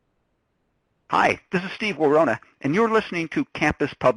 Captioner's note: voiceover